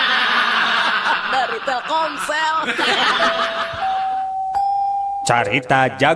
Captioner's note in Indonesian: tertawa